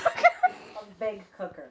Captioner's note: laughing